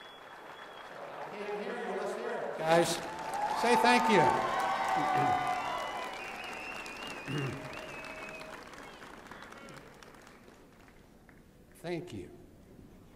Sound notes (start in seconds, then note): 4.5 cheering and applause